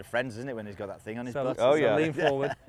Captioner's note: chuckles